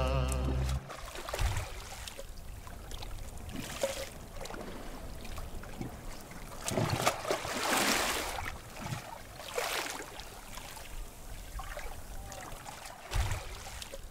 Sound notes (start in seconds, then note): 1.1 noise of waves